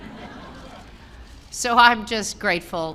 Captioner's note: laughter